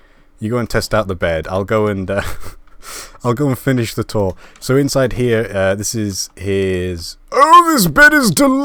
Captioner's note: laugh